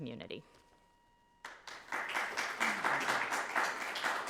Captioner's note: crowd claps